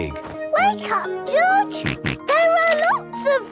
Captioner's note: George snorts